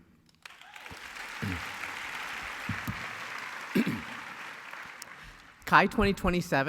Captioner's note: applause